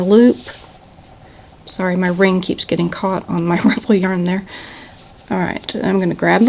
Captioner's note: laughs